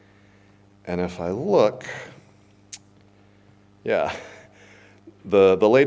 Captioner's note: chuckles